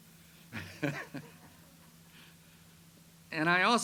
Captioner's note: chuckles